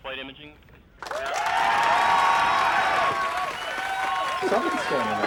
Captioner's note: crowd cheering; murmurs